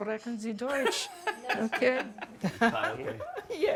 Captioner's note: chuckles